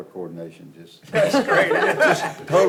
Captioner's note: all laugh